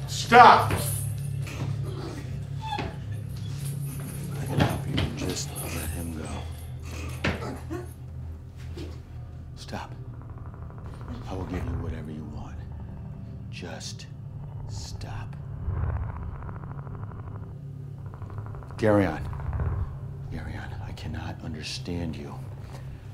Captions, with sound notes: Stop! Let him be - and just let him go. Stop! I will give you whatever you want just stop. [Geryon makes echolocation sounds] Geryon! Geryon, I cannot understand you. I -